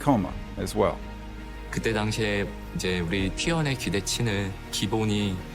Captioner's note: Coach Kkoma speaking Korean